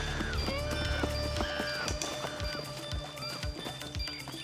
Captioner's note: animals squealing